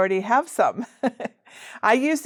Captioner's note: chuckles